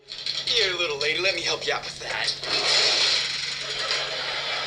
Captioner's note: laughter